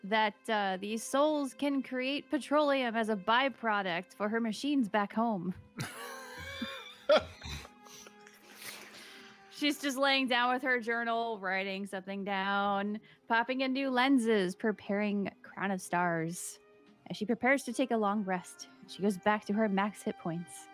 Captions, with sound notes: that these souls can create petroleum as a by-product for her machines back home. (group laughs) She's just laying down with her journal, writing something down, popping in new lenses, preparing crown of stars as she prepares to take a long rest, she goes back to her max hit points.